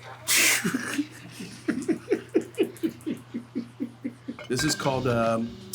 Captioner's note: laughing